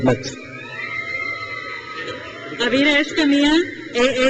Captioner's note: crowd cheers